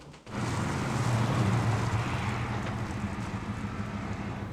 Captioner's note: truck engine roars